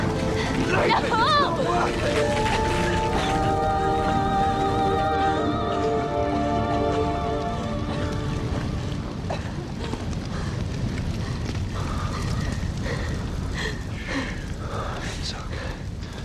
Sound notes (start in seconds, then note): 9.0 coughing